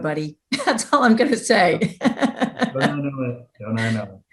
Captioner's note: chuckles